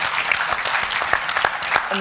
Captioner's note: applause